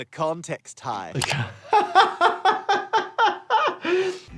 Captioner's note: laughs